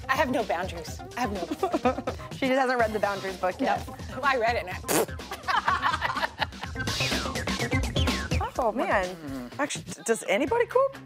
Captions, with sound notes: - I have no boundaries. I have no-- (laughing) - She just hasn't read the Boundaries book yet. - Well I read it and (blows raspberry) (all laughing) (upbeat funk music) - Oh man. - Does anybody cook?